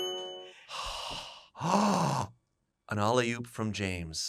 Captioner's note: bright music; gasps; sighs